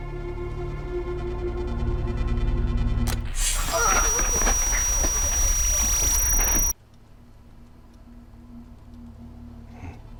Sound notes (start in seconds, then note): 3.6 high-pitched ringing